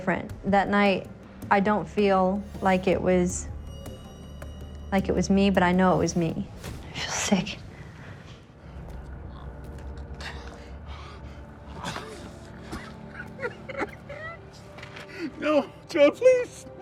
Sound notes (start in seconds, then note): 10.8 gasping; 11.6 coughs and cries